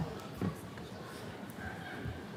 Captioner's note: none